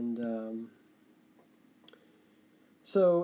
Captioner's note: tough click